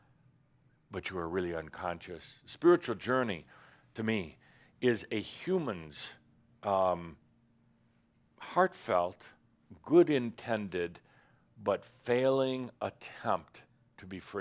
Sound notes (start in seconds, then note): none